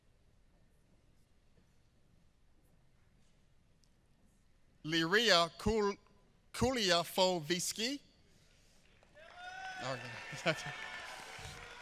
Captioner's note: applause